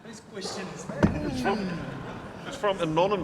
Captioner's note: audience laughing